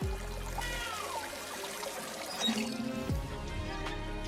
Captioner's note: baby cries